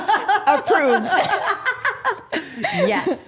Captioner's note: group laughing